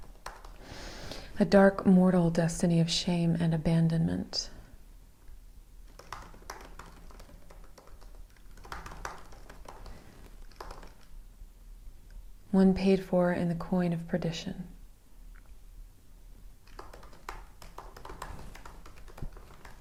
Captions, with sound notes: "A dark mortal destiny of shame and abandonment." (keyboard clacks) "One paid for in the coin of perdition." (keyboard clacks)